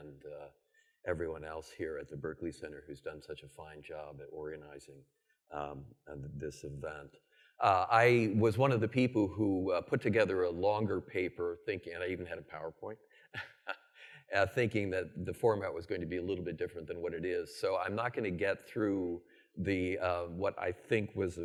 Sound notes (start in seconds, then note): 13.3 laughs